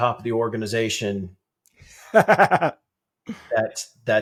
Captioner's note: laughter